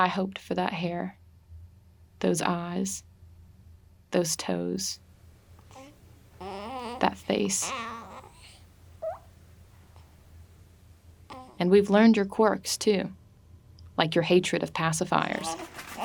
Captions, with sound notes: I hoped for that hair, those eyes, those toes, that face. [baby cooing] And we've learned your quirks too. Like your hatred of pacifiers.